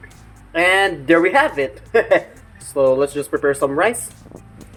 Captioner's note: laughs